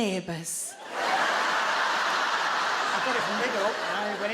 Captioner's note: audience laugh